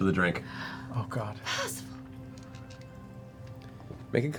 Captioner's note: gasps